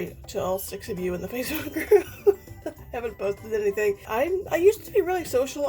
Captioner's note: laughs